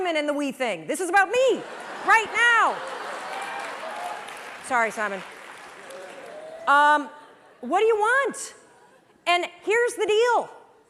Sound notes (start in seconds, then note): 1.6 laughter; 2.7 applause